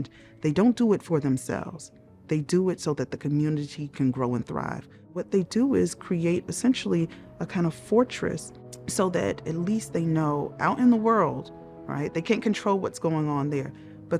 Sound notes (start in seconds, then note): none